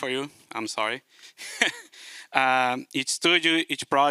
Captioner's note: chuckles